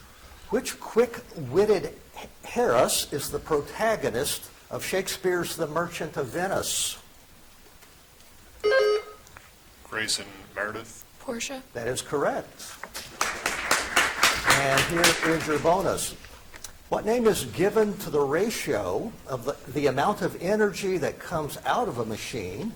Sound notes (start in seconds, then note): 8.6 buzzer chimes; 12.9 audience applauds